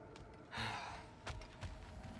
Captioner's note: sigh